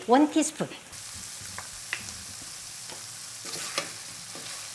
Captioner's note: sizzling